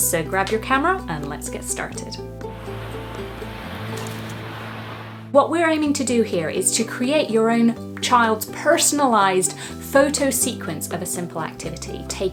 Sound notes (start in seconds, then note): 2.5 waves crashing; 2.5 gentle music